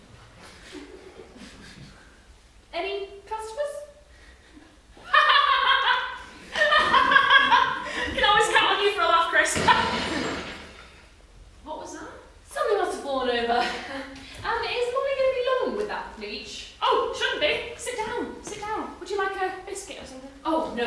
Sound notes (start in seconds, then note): 5.0 laughs loudly; 9.5 another bang overhead